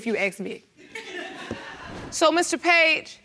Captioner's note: audience laughing